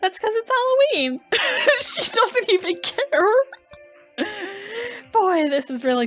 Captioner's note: laughing